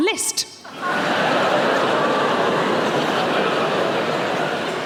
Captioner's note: audience laughing